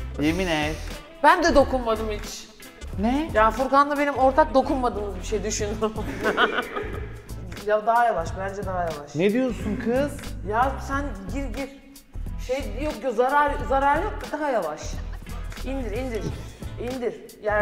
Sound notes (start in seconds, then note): 6.0 laughs sneakily